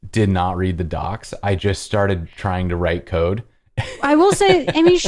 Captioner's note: laughter